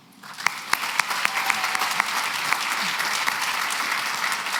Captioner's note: applause